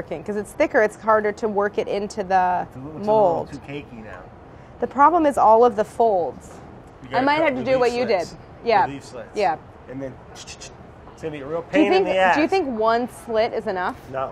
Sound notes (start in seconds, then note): 10.3 makes shushing noise